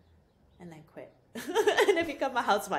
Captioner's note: laughs